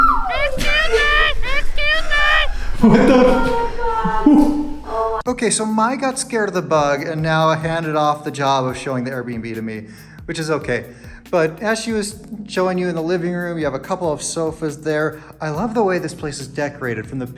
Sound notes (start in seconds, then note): 0.0 screams; 1.0 funny Voice